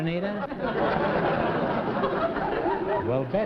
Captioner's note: laughter